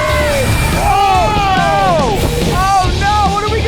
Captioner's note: in Unison